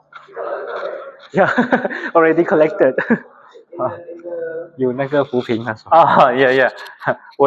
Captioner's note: laughs